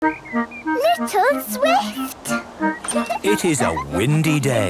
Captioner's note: laughter